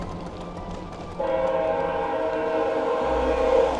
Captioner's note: train horn blares